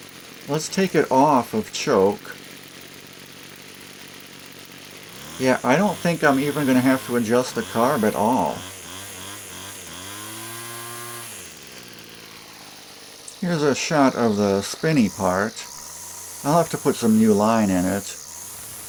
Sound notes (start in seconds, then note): 0.0 engine running sounds; 2.7 engine running sounds; 9.0 engine running sounds; 18.6 engine running sounds